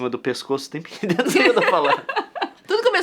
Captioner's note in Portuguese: Risadas